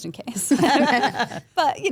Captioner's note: group laughs